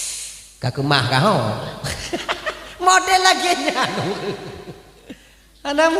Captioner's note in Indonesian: tertawa